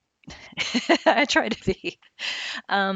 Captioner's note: laughing